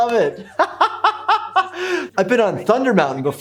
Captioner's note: laughs